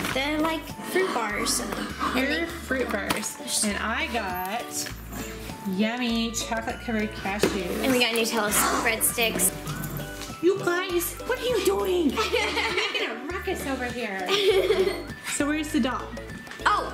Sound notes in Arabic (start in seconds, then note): 12.1 يضحك